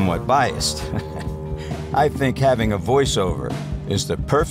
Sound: chuckles

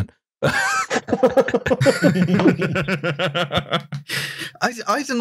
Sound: laughter

